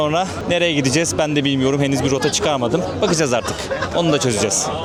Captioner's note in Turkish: kahkaha